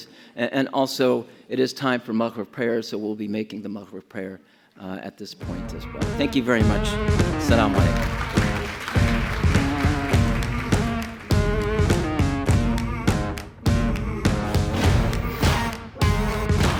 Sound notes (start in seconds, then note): 5.8 upbeat music; 7.1 audience applauds; 9.3 upbeat music